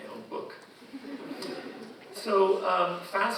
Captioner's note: audience laughing